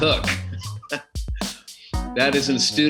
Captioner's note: laughs